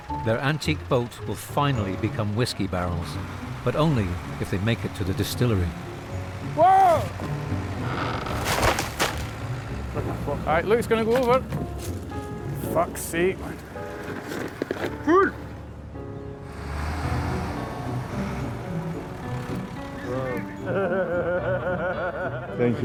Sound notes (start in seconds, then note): 0.0 engine whirring; 8.1 wood creaking and cracking; 17.1 lively music continues; 19.7 laughs